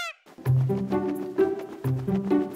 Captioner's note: peacock call, relaxed music